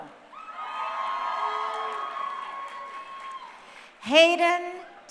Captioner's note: crowd cheering